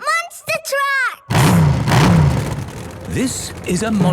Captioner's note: engines revving